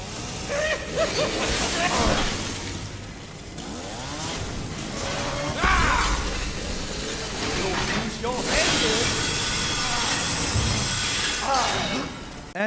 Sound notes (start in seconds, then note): 0.3 laughing; 0.6 chainsaws whirring; 9.7 chainsaws clanking